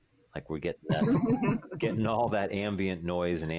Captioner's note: laughs